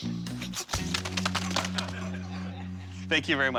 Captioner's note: laughter